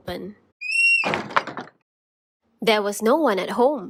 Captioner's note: door creaks